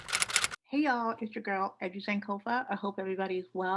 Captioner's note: typewriter sound